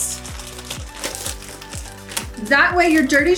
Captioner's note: plastic crinkling